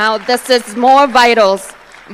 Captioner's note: applause